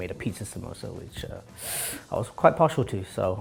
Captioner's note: inhales